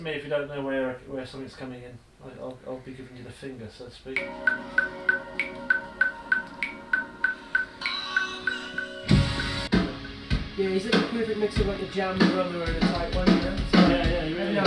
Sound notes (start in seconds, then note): 4.1 metronome starts ticking; 9.7 drumming